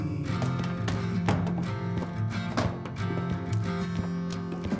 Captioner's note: books thudding